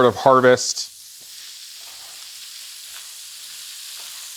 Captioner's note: oil sizzling